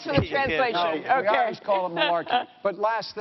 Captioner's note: laughter